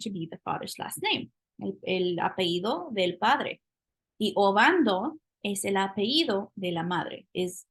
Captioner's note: speaking spanish